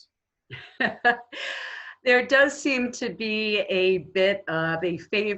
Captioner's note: laughing